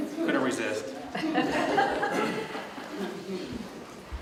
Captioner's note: laughter